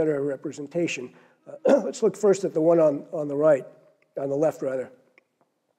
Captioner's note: cough